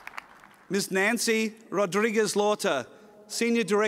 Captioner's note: applause